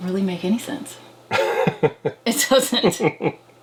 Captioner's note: laughs